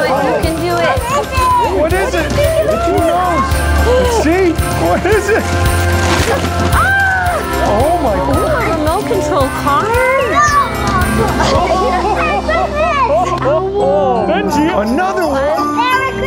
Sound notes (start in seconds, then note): 3.1 gasps; 10.2 laughing